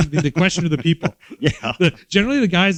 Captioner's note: chuckles